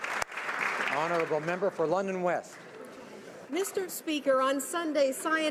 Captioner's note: applause